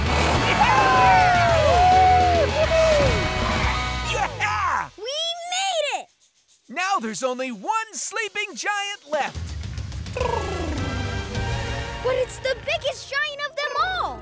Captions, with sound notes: [cheering] - Yeah-heh! - We made it! Now there's only one sleeping giant left. [snoring] But it's the biggest giant of them all.